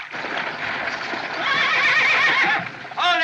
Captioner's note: horses Whinnying